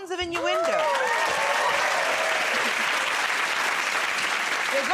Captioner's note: cheers and applause